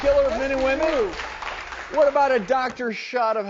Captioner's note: audience clapping